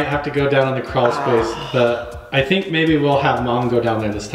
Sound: exhales

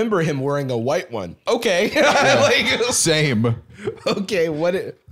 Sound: laughs

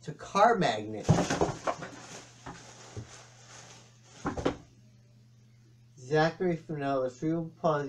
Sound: thud of box hitting the ground, rustling of loose tissue paper

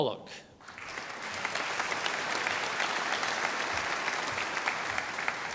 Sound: audience applauding

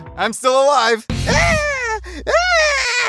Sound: mocks; mocking

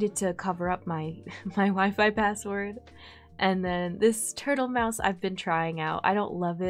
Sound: giggles

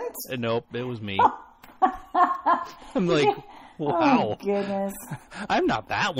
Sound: laughs

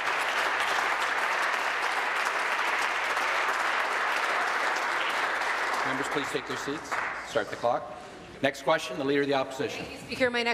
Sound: applause

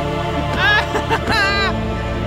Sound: laughing

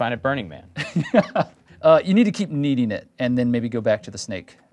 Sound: laughs

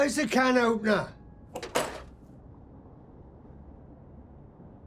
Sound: can opener rattles

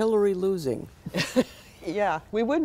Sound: laughter

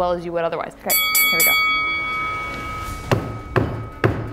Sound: bell ringing; hammering

